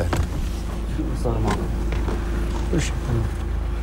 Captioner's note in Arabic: يتحدث لغة أجنبية